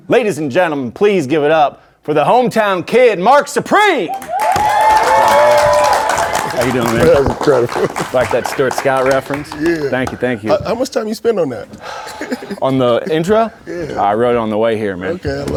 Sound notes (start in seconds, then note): 4.0 audience cheering